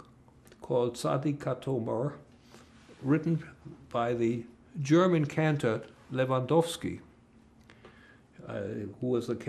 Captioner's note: non-english